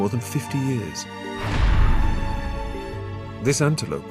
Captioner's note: loud thud